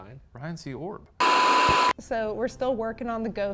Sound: static crackles

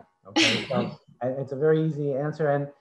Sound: laughs

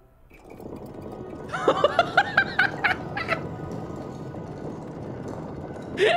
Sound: laughing

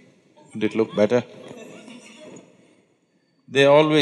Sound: laughter

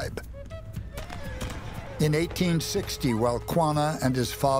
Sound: gunfire

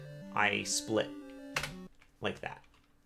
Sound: keyboard click

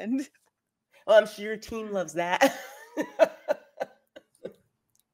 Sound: laughs

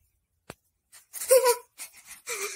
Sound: Magenta Gasping

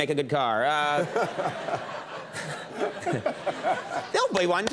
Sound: crowd laughing

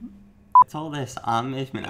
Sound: beeping

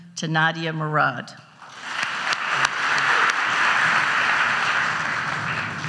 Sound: audience applauds

